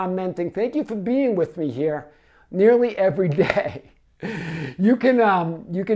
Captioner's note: laughs